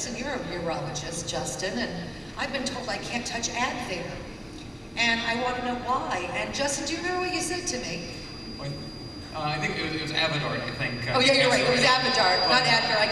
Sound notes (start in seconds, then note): none